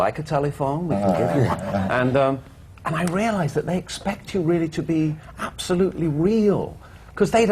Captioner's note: laughter